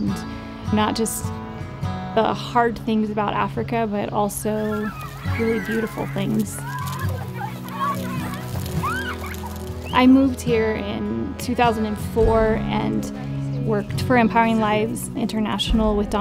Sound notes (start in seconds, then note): 6.8 children laughing and squealing